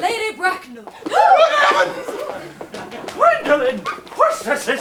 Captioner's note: everyone gasps